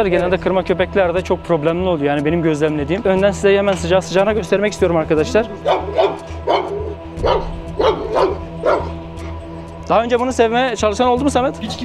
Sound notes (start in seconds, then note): 4.6 barking sounds and tension music